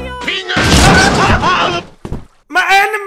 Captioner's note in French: bam !